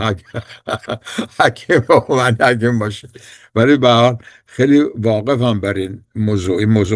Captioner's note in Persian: خنده